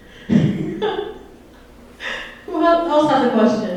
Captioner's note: laughs